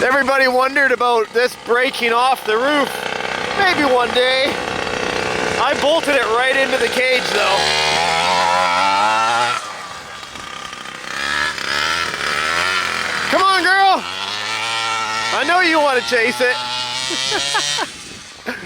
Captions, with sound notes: Everybody wondered about this breaking off the roof. Maybe one day. I bolted it right into the cage though. (motor revving) Come on, girl! I know you wanna chase it! (laughs)